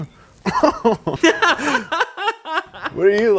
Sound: laughing

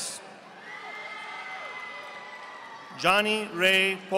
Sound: audience applauding

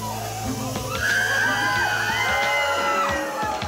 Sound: screams; cheers

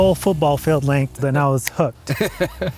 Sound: fingers clicking; laughing

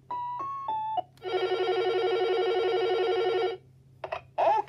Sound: phone ringing

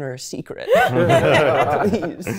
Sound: everyone laughing

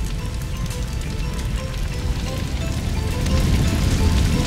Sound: flames crackling

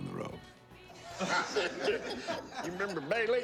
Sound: laughter

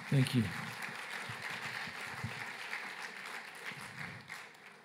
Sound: applause

